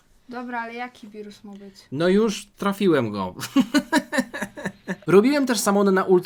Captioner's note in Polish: śmiech